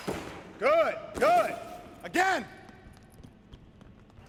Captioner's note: none